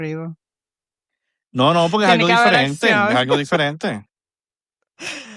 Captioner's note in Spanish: risas